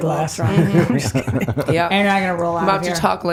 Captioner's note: laughing